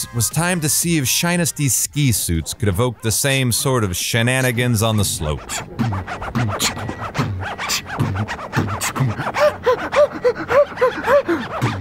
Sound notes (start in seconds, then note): 5.6 beatboxing